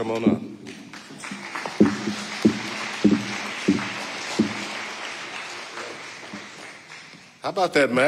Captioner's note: audience applauding